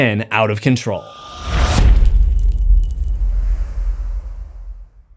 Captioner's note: impact